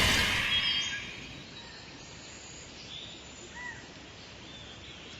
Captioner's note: birds cawing and chirping